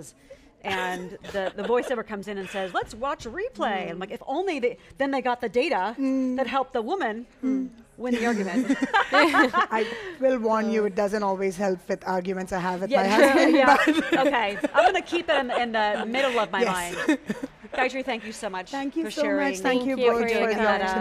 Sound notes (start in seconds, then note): 8.2 laughs; 13.1 laughs